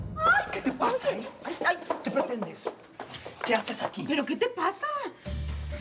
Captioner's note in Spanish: Gritos de ella